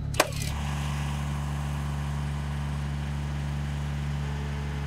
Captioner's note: nail gun firing; engine humming